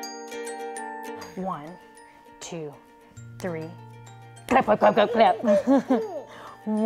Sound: laugh

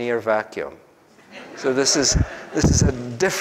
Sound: group laughs

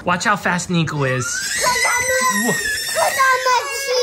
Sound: screaming

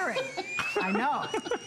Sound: laughter

